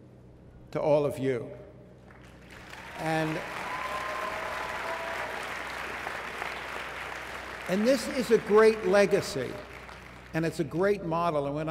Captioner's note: applause